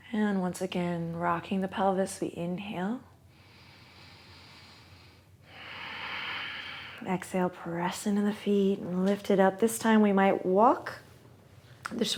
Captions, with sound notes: And, once again, rocking the pelvis, we inhale. (inhales and exhales) Exhale, press into the feet and lift it up. This time we might walk.